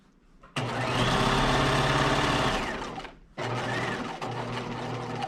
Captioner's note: sewing machine whirring